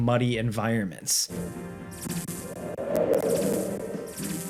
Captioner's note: wind howling